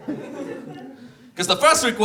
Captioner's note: audience laughs